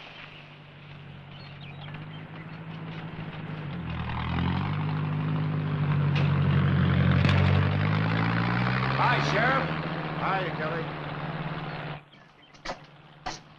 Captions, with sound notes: (engine rumbling) - Hi, Sheriff. - Hi, Kelly.